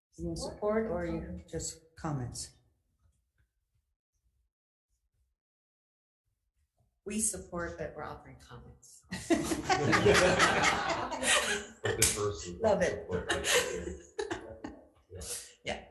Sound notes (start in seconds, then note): 9.2 all laugh